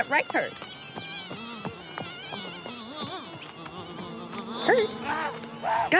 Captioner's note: mosquitoes buzz